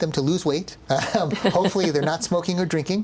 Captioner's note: laughing